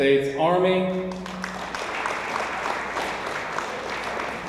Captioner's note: audience applauds